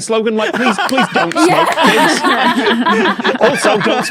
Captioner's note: guests laugh uproariously